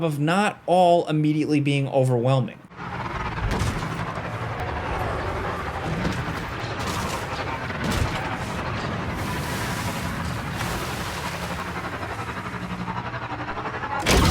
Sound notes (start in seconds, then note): 2.8 speeder buzzing; 6.7 lasers blasting; 9.3 water splashing; 12.2 speeder buzzing